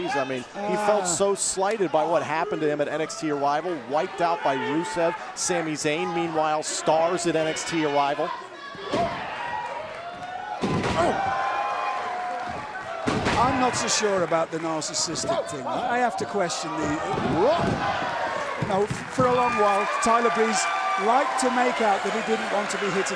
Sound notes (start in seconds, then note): 12.6 cheers & applause